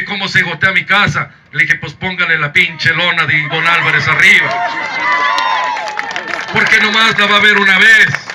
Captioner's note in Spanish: aplausos